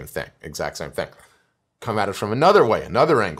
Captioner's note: breath